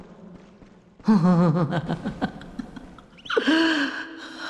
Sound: laughing

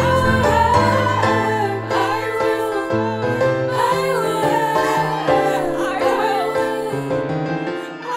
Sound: crying

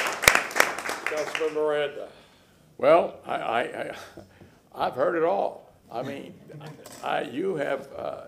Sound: applause

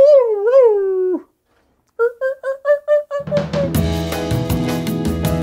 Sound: animal noises; upbeat music

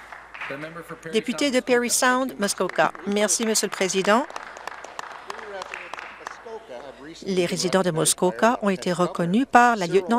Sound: some Applause

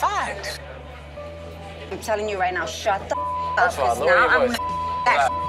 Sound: beep

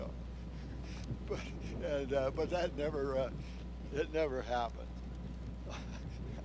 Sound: chuckles

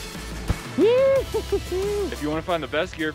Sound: cheers

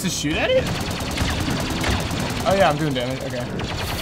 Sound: rapid laser fire

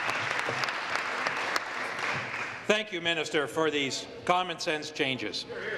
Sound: applause

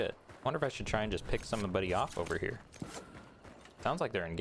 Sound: gunshots and explosions

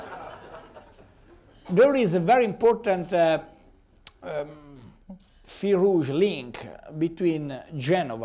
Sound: laughter

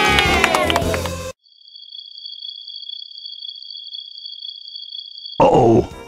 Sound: crickets crying

